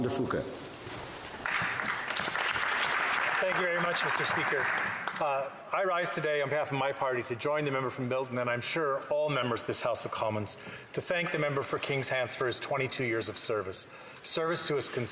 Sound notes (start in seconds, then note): 6.2 applause